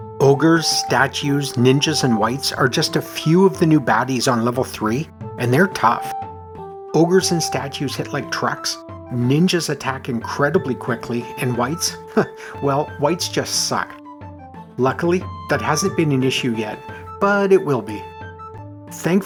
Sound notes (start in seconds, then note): 12.0 chuckle